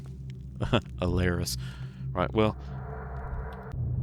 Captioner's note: chuckles